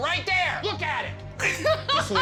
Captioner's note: laughter